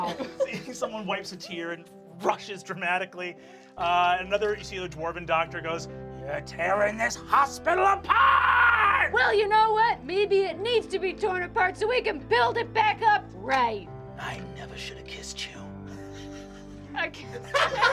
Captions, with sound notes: - You see someone wipes a tear and rushes dramatically. Another, you see a dwarven doctor goes, (shouting) You're tearing this hospital apart! - Well, you know what? Maybe it needs to be torn apart so we can build it back up right! - I never should have kissed you. - I kissed--